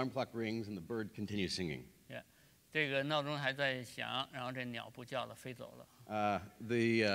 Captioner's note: speaking in Chinese; speaking in Chinese